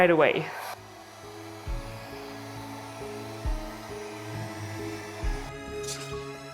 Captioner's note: bright music; dryer whirring